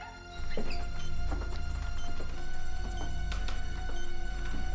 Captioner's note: machine beeping